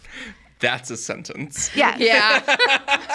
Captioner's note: laughs